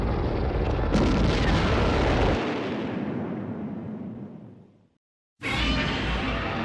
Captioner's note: explosion